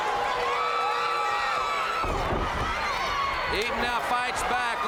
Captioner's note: crowd cheering